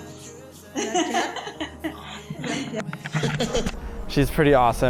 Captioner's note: laughing